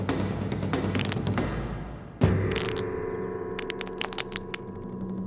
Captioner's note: knuckles crack